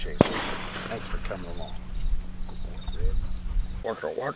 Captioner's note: bang